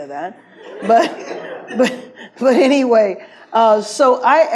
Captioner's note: audience laughs